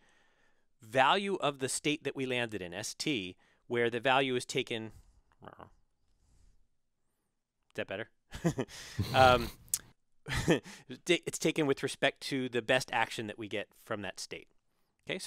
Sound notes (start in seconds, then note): 8.9 laugh